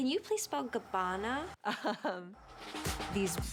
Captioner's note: chuckles